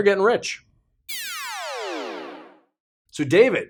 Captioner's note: electronic noise